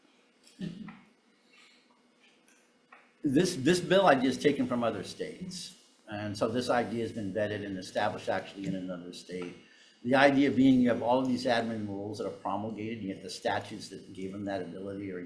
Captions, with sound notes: (speaker chuckling) This bill I'd just taken from other states. And so this idea has been vetted and established actually in another state. The idea being you have all of these admin rules that are promulgated, you have the statutes that gave them that ability,